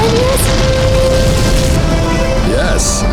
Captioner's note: flames roar